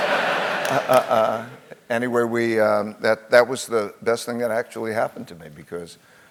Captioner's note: laugh